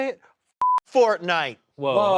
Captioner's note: beep